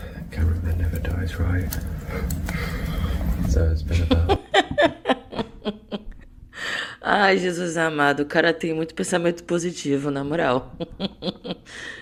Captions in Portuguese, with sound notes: [risadas] Ai Jesus amado, o cara tem muito pensamento positivo, na moral. [risadas]